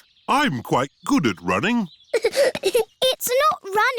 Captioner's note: giggling